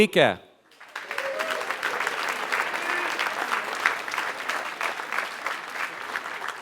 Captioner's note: applause